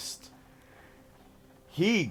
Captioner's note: heavy breath